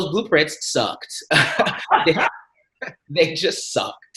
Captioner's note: laughter